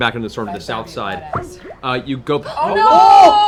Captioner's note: Skype sound